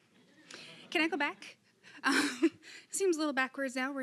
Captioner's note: laughing